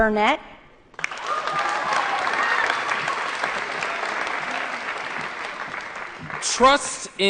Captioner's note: applause & Cheering